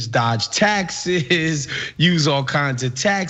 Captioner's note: laugh